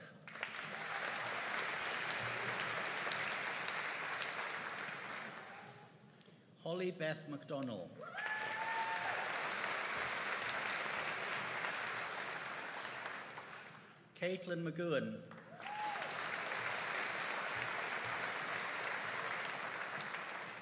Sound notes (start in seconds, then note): 0.2 audience applauding; 8.0 audience cheering and applauding; 15.4 audience cheering and applauding